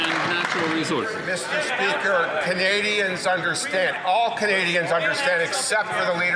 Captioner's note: some Applause